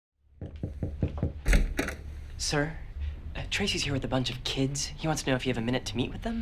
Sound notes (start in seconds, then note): 0.4 knocks on door, door opens